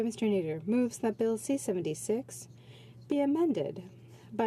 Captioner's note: speaking French